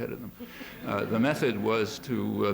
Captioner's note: laughter